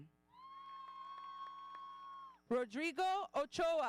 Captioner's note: audience cheering